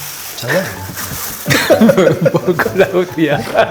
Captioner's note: chuckles